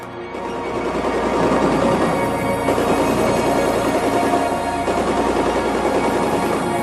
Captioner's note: tense music; gun fire